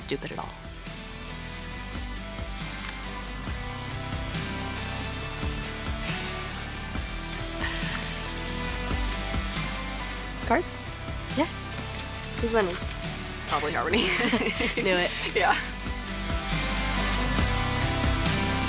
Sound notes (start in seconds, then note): 0.2 intense music; 13.6 Astrid and Rhyme laugh; 15.5 intense music